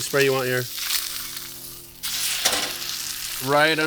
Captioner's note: sizzling